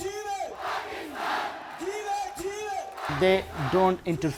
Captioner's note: chanting; crowd; shouts in foreign language